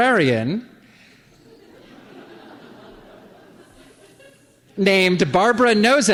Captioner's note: laughter